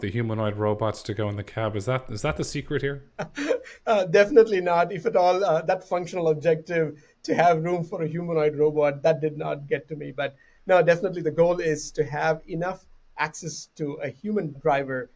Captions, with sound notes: humanoid robots to go in the cab. Is that, is that the secret here? [Laughes] definitely not if at all that functional objective to have room for a humanoid robot that did not get to me. But, no, definitely. The goal is to have enough access to a human driver.